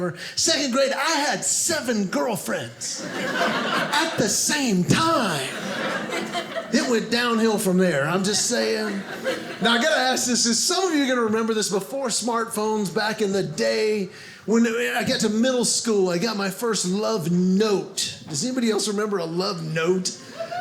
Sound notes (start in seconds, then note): 5.7 audience laughing